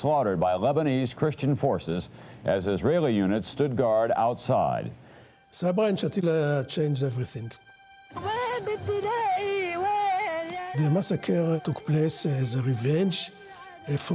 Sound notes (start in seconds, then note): 8.8 crying